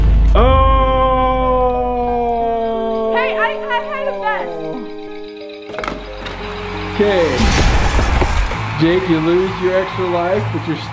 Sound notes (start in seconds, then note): 2.4 melancholy music; 5.9 bomb ticking; 7.4 bomb exploding